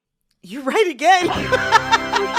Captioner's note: laughter